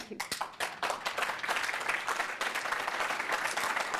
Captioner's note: audience clapping